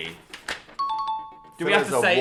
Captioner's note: ding